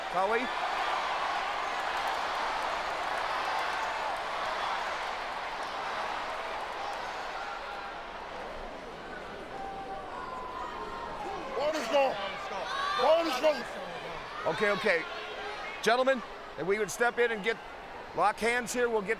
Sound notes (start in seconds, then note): 3.0 audience cheers